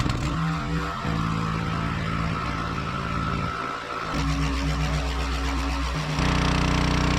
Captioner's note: this sound, the sound of the motor pump, in accelerated mode